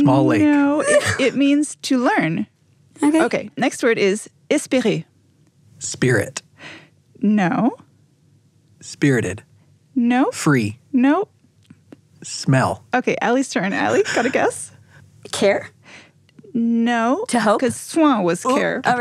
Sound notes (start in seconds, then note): 4.9 foreign language; 18.2 foreign language